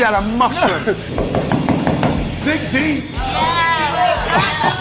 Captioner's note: knocking